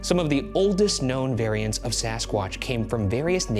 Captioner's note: none